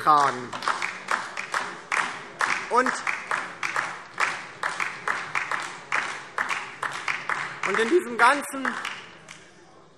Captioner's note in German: Beifall DIE LINKE und vereinzelt SPD